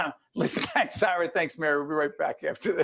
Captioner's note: laughing